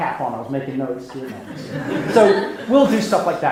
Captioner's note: laughing